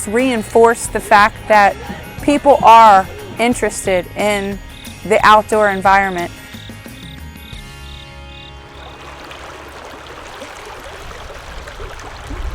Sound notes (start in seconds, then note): 7.3 crickets chirping; 8.5 water flowing